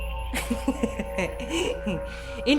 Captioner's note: laughing